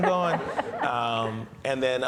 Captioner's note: audience laughs